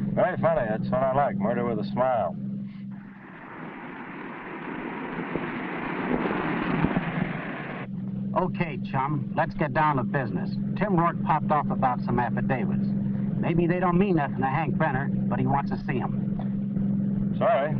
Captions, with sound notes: Murder with a smile. (car rumbling) - Okay, chum, let's get down to business. Tim Rourke popped off about some affidavits. Maybe they don't mean nothing to Hank Brenner, but he wants to see 'em. - Sorry, fresh out of affidavits.